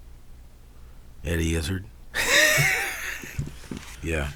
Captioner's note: laughs